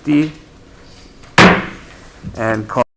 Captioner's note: mallet thudding